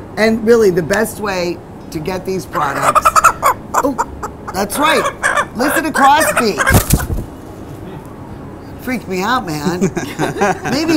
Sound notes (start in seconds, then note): 2.5 chicken clucking; 9.6 group laughs